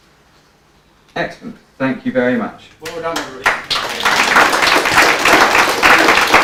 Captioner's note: applause